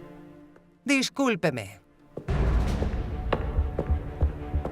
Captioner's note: Elizabeth speaks in a foreign language; dramatic music